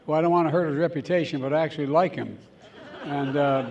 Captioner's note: laughter